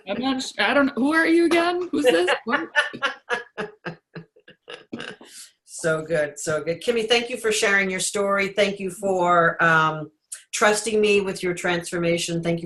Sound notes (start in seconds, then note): 1.8 laughs